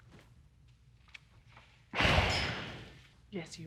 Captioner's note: sighing